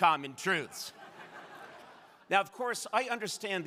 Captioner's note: crowd laughing